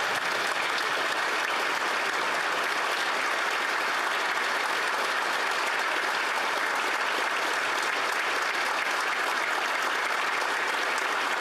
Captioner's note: applause